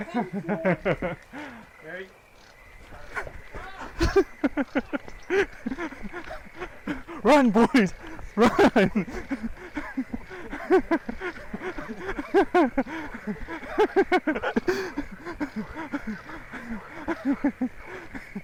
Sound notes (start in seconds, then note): 4.2 giggles while running away; 9.2 continues giggling